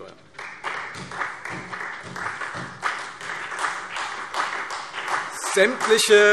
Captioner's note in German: Beifall Freie Demokraten, vereinzelt CDU, BÜNDNIS 90/DIE GRÜNEN und SPD